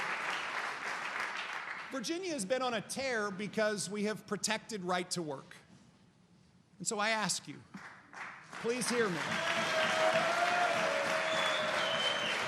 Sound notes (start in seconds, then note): 0.0 applause